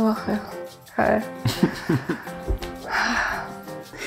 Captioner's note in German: Lachen, erleichtertes Seufzen